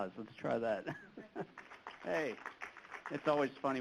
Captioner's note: applause